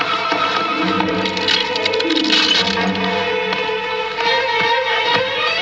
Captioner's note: vidro estalando; música dramática